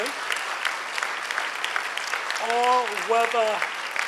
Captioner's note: clapping